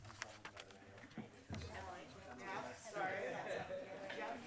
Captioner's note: people chatters